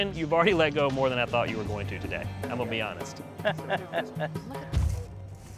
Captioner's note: laugh